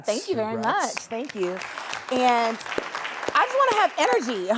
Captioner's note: clapping